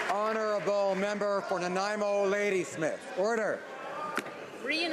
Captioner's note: some applause